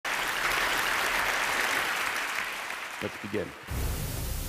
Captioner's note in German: Applaus